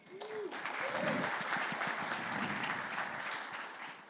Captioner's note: audience cheering